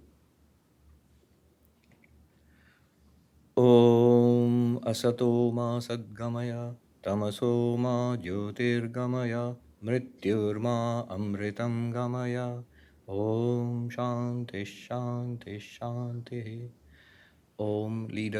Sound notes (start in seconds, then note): 3.9 chanting and reciting in hindi